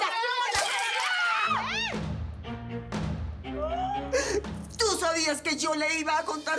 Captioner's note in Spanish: Ruido al romper florero; Hablan al unísono; Gritos y exclamaciones